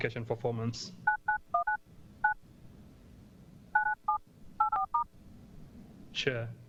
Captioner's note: sound of phone dialing